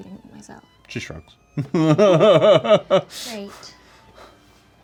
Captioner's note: laughing